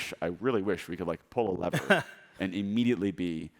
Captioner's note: laughing